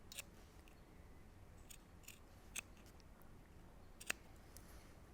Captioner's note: scissors snipping